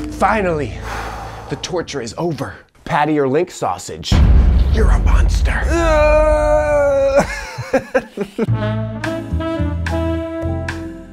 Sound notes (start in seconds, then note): 0.7 introvert exhales deeply; 4.1 ominous music; 5.4 introvert groaning; 5.7 Frank laughs; 8.4 smooth jazz